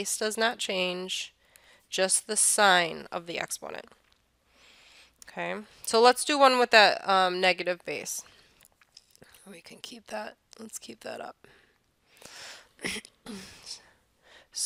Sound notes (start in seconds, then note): 4.4 breath; 13.2 throat clears